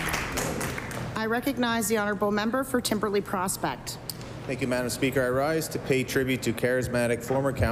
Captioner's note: applause